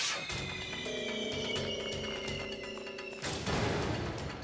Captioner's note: fireworks hissing